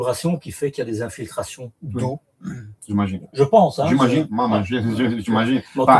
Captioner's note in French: raclement de gorge